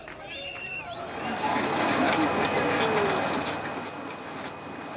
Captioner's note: chanting fades